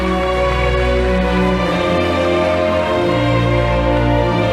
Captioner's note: audience applauding